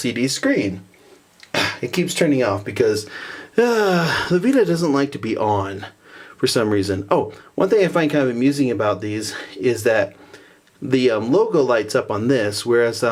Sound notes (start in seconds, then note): 3.2 sigh